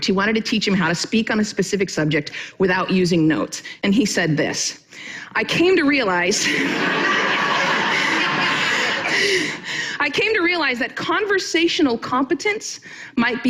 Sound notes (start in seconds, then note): 6.4 audience laughing